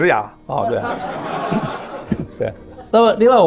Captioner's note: laughs